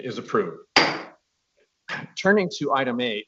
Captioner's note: gavel taps